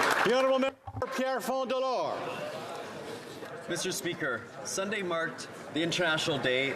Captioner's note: applause